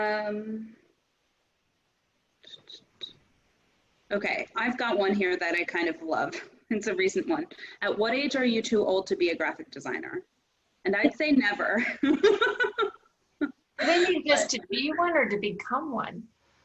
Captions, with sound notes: I've got one here that I kind of love, it's a recent one. At what age are you too old to be a graphic designer? And I'd say never.(laughing) - Mainly just to to be one or to become one?